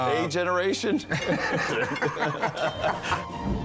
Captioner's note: laughs